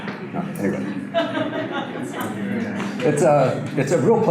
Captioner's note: audience laughter